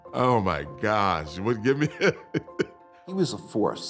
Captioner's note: laughter